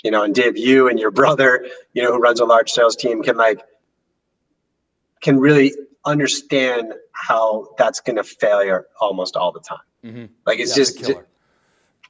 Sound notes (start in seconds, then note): 10.0 mumbles